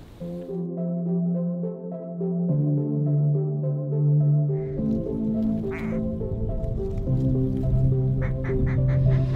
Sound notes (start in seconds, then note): 5.6 duck calling